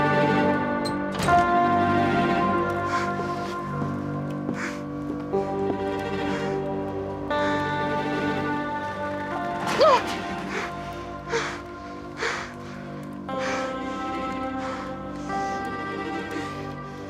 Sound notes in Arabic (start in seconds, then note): 2.5 أصوات تنفس إفنان; 7.2 أصوات تنفس إفنان; 9.7 يبكي; 9.8 أصوات تنفس إفنان